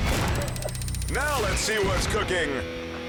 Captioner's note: countdown squeals